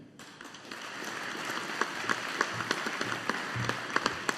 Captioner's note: audience applauding